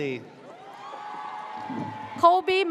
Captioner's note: audience cheers